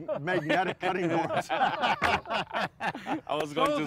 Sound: group laughs

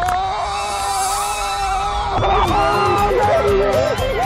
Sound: shouting

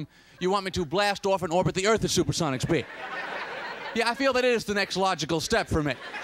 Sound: laughter

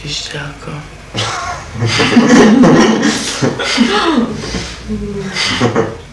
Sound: the hyenas choir laughs

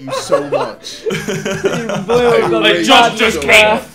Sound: laughing

